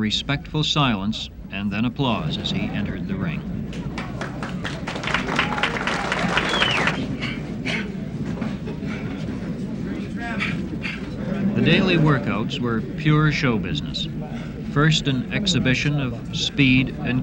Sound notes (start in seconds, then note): 6.6 clapping; 10.3 gasps of exertion